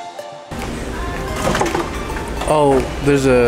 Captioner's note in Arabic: قعقعة بلاستيكية